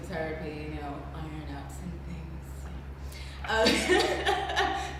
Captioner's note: laughs